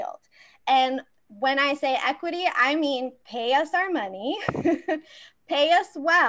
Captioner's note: laughs